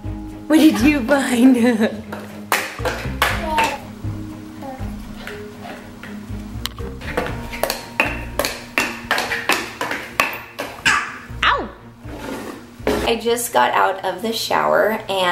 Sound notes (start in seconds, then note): 1.4 laughs